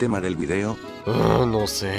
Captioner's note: groan